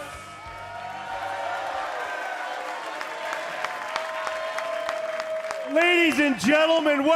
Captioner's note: cheers and applause